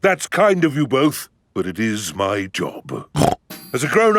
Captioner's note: snorts